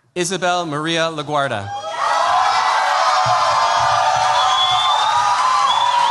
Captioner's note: cheers, applause